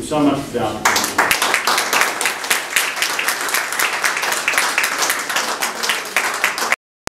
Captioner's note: clapping